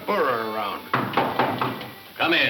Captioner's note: knocking